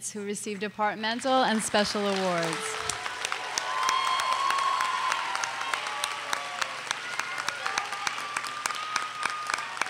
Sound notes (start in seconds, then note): 3.0 audience cheers and applauds